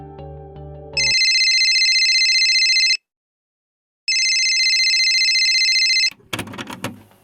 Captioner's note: phone ringing